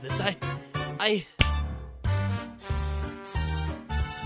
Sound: hannibal snaps his fingers

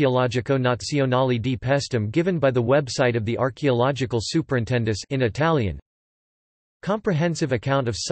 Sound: in Italian; in Italian

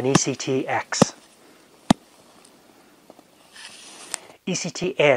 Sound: hand tapping

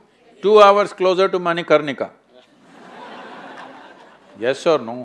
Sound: laughter

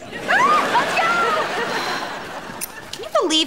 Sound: sighing

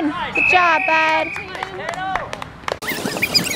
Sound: tape fast forwarding; whistle

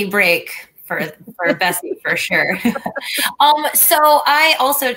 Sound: laughter

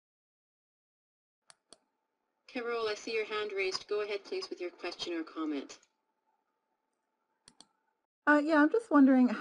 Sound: hear keyboard click

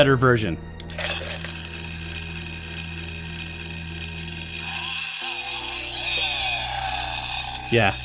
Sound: SFX: chainsaw revving up

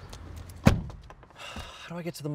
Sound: car door slams

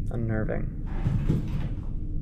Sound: thud

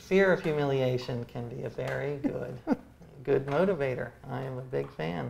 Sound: laughs

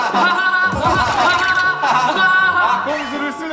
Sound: hahahaha

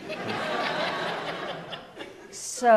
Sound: audience laughs

